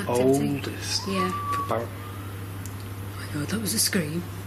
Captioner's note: loud screaming